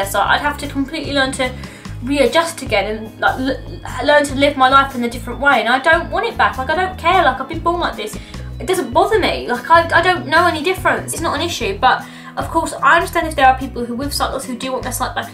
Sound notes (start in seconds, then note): none